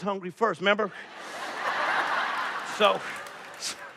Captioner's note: laughter